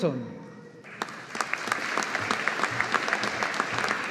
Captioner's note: audience applauding